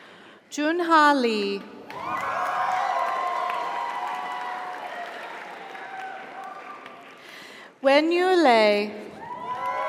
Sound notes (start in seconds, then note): 1.9 audience applauds; 1.9 audience cheers